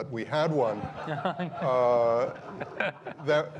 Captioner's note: crowd laughs